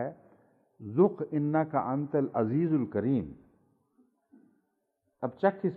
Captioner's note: Arabic